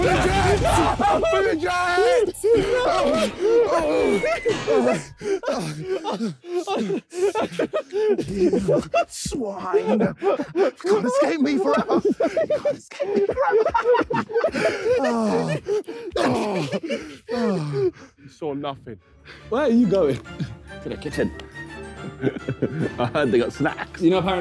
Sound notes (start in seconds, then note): 6.7 panting